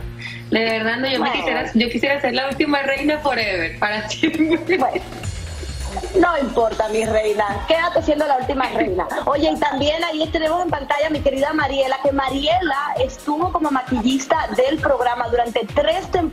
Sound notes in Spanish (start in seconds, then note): 11.4 risas